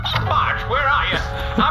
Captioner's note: plays voicemail; shouting